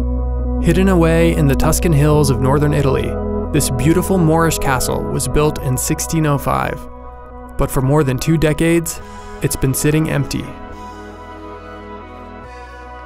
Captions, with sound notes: - [Voiceover] Hidden away in the Tuscan hills of northern Italy, this beautiful Moorish castle was built in 1605, but for more than two decades, it's been sitting empty.